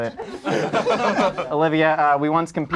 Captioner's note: group laughs